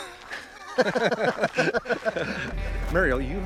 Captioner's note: both laughing